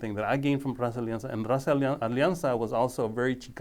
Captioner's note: speaking foreign language